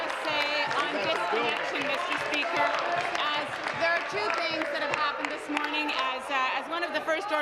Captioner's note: applause